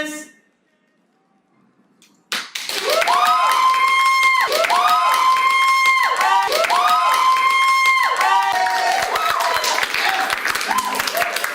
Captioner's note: applause